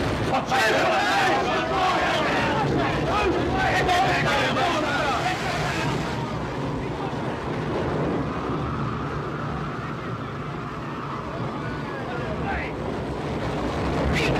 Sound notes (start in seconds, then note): 0.3 angry shouting & commotion; 5.0 wind blows hard; 11.7 wind & waves